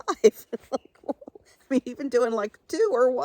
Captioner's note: chuckles